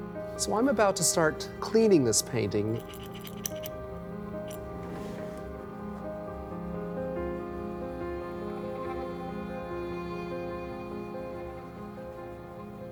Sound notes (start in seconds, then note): 2.6 lid jingles; 5.3 gentle music